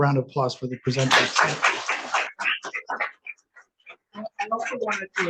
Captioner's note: audience applauds